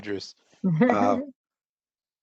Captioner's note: laughter